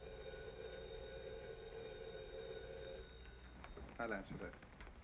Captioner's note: phone ringing